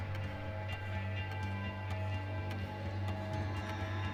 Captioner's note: clock ticking